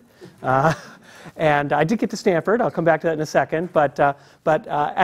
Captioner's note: laugh